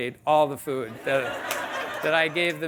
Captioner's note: audience laughing